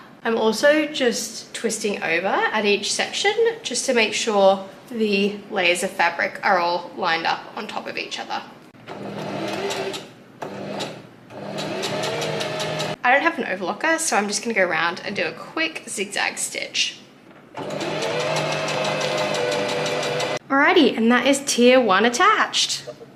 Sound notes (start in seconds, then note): 9.5 sewing machine surges; 17.5 sewing machine surges again